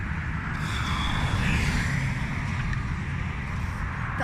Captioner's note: traffic